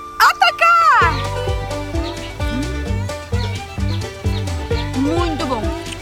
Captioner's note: birds